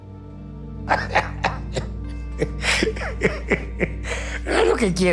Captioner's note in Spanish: Risas